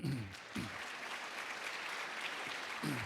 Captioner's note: applause